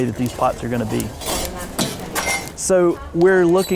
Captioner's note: metal scraping against masonry